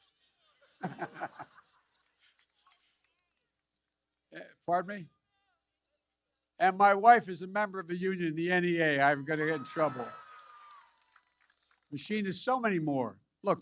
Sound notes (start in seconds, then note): 0.6 laughs; 9.2 applause